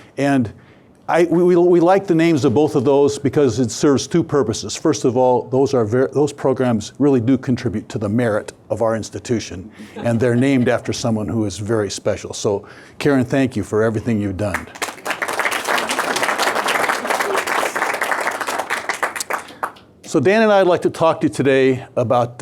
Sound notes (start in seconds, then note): 14.5 audience applauding